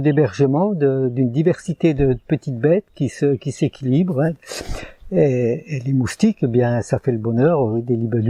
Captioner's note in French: raclement de gorge